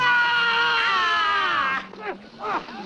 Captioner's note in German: Mann schreit; Stöhnen